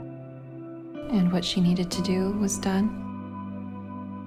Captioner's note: voiceover